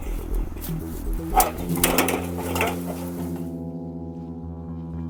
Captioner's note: metal rattling